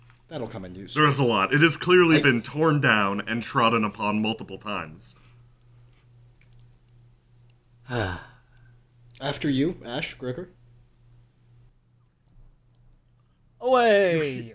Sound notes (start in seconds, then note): 7.8 sighs